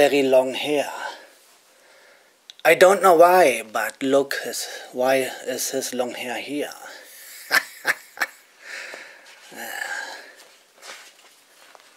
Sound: laughter

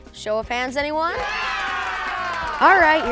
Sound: applause

